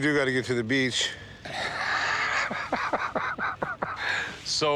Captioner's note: both chuckling